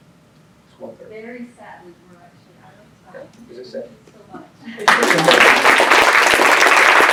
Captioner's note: applause